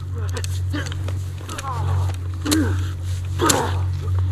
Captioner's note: grunts